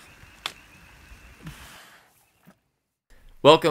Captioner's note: whoosh, of shovel in soil, and heavy breathing